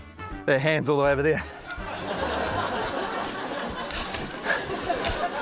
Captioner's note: laughter